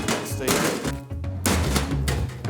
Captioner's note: cans thudding